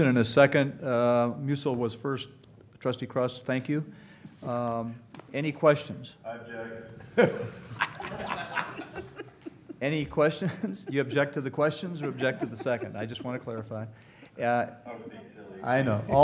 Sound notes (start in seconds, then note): 7.9 laughter